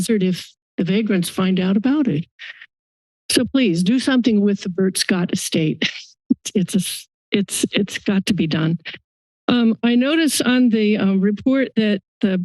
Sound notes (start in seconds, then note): 5.9 laughs